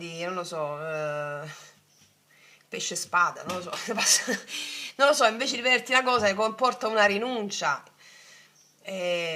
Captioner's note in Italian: risate